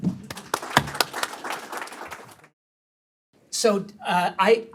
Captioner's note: audience applauds